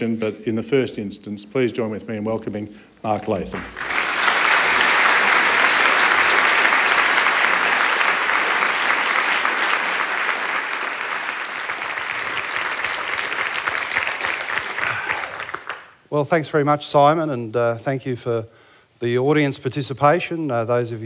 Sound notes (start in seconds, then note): 5.0 applause